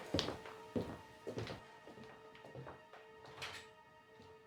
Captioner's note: footsteps receding